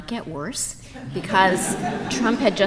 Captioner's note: audience laughing